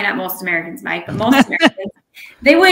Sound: laughing

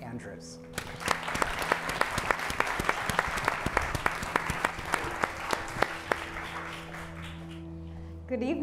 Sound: applause

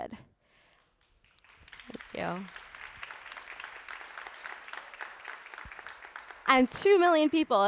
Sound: applause

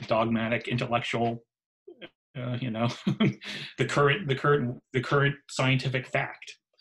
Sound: laughs

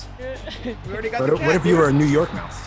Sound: laugh

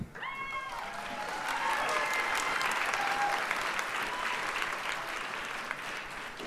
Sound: audience cheers and applauds

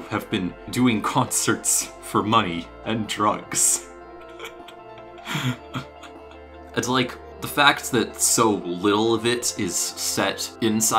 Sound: laughing quietly

